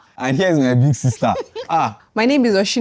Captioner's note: laughs